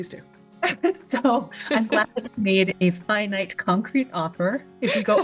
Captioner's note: laughs